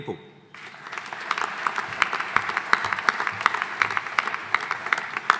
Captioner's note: audience applauding